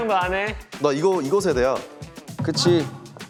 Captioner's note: confident